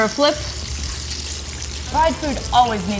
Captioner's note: food sizzling